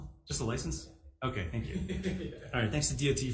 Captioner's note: testifier laughs